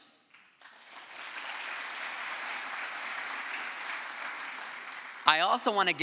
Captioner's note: crowd applause